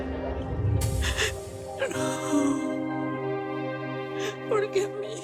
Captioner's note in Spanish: Sollozos